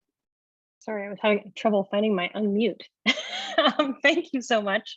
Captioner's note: chuckles